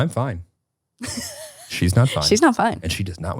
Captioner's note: laughing